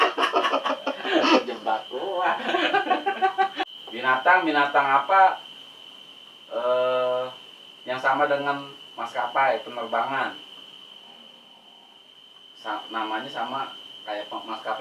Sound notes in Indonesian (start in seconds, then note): 0.0 ketawa monyet